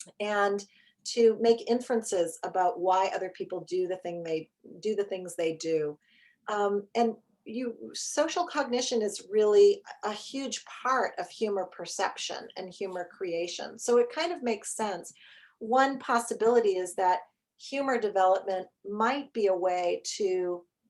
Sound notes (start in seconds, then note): none